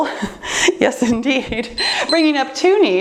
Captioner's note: timer beeps